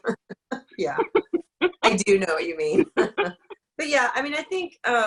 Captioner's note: laughs